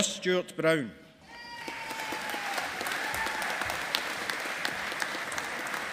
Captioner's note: audience applauding